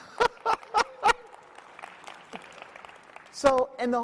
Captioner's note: audience clapping; laughs